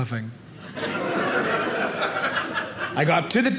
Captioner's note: audience laughing